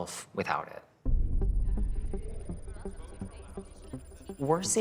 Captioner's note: digital chirping